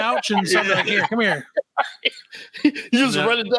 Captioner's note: laughing